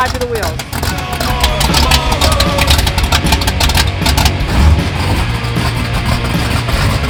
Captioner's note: engine revving; upbeat rock music